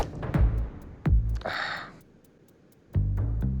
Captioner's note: sighs